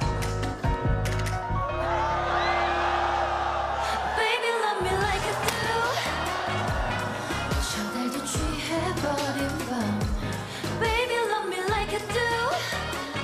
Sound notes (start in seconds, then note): 5.4 fireworks; 5.4 screams and Applause